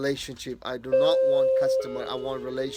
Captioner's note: doorbell ringing